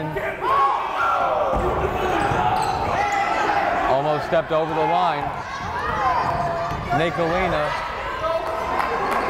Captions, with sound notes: Throwin'. (yelling) Almost stepped over the line, Nick Gallina, Thompkins.